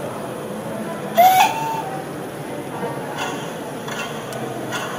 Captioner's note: short whistle